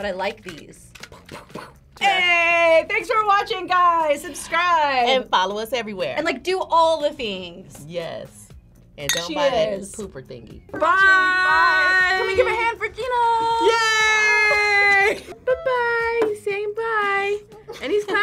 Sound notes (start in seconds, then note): 14.0 laughs